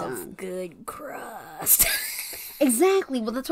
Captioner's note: laughs